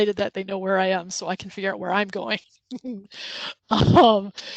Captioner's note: laughs